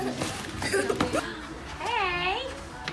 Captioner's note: laughs